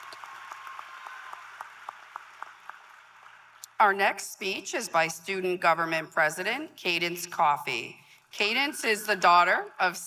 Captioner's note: applause